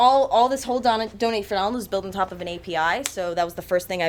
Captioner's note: none